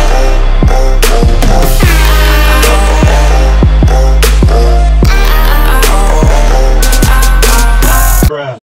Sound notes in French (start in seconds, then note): 1.7 klaxon à air comprimé